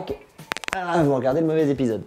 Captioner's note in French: articulations qui craquent x4